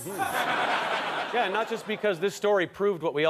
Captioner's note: audience laughter